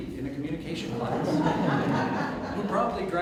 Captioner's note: audience Laughter